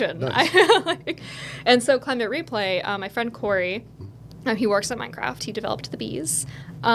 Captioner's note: laughing